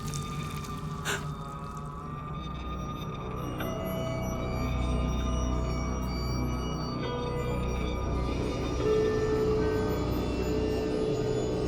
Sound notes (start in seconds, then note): 1.0 gasps